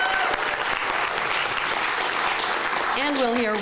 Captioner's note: clapping